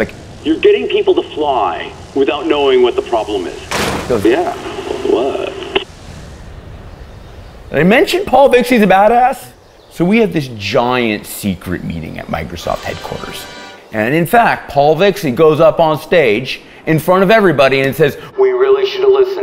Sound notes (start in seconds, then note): 0.2 voiceover; 3.6 voiceover; 7.5 voiceover; 18.2 voiceover